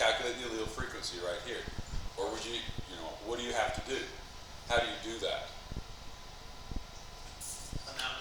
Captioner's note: student answering, quiet